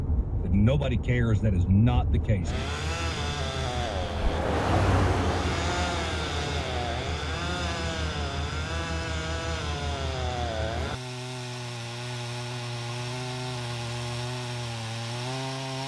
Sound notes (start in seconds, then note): 2.2 chain saw whirs